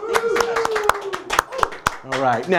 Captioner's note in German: applaus